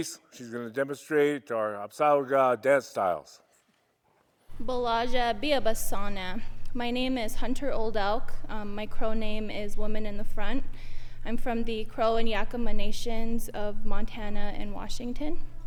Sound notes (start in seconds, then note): 4.5 speaks in Crow